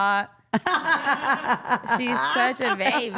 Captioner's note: all laughing